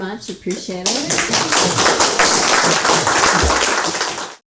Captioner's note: audience clapping